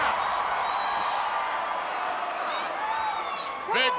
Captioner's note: crowd cheering